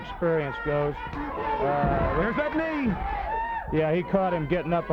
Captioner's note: body thudding